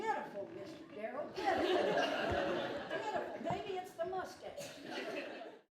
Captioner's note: hahaha